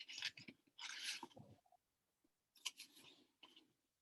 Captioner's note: papers rumbling